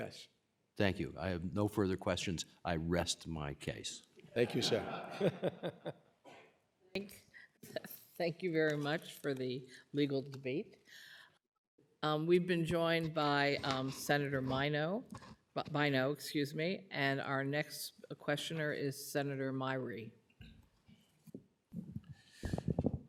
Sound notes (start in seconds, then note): 4.4 laughter